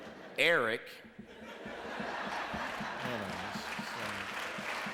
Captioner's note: laughter